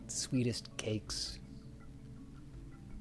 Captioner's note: none